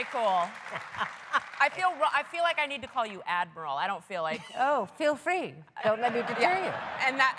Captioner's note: cheers and applause